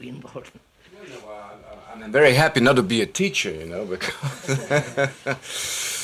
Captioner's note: laughs